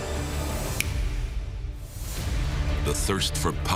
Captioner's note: snap fingers